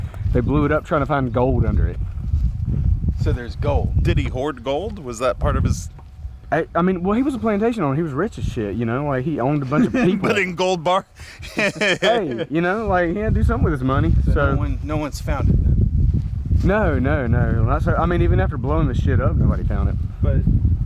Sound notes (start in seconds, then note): 11.1 laughing